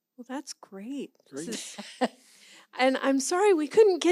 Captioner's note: laughs